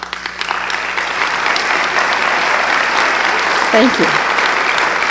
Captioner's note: applause